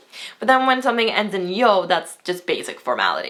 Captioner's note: foreign language